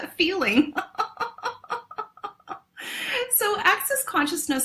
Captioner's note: laughs